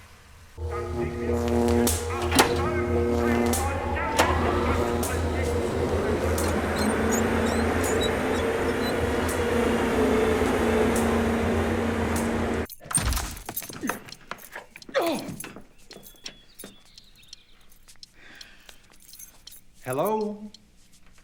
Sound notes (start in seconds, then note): 0.2 electricity buzzing; 3.8 whirring